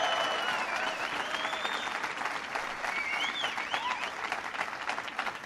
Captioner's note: applause